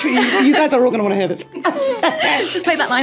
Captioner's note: both laughing; laughing